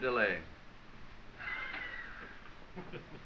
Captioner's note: laughing